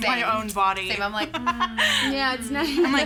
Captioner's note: laughing